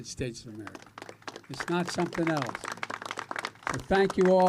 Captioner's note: applause